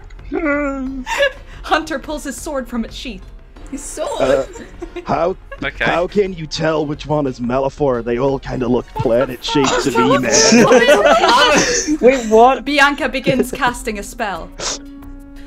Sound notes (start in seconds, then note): 0.5 scared Gnorc noises; 3.9 giggles; 12.2 bamboozled noises